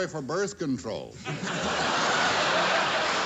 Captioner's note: laughter